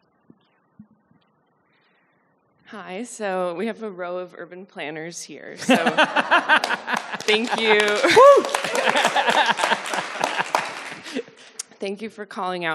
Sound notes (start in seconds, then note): 5.6 audience laughing heartily; 7.2 and audience applauding; 9.7 applause swells